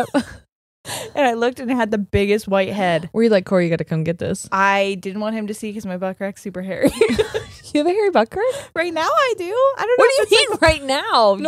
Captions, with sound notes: And I looked it and had the biggest white head. - Were you like, "Cory, you gotta come get this." - I didn't want him to see 'cause my buck crack's super hairy. (both laughing) - You have a hairy butt crack? - Right now I do, I don't know. - What do you mean right now?